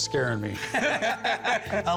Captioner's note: laughter